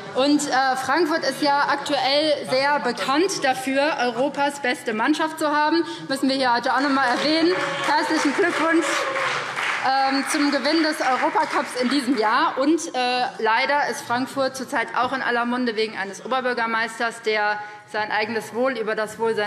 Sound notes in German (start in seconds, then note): 12.2 Beifall BÜNDNIS 90/DIE GRÜNEN, CDU und Freie Demokraten